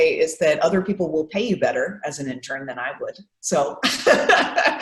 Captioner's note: laughs